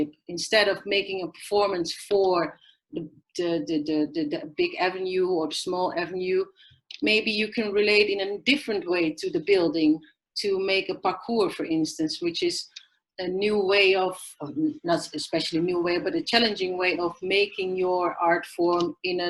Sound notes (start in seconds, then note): none